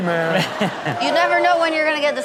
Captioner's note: Rob chuckling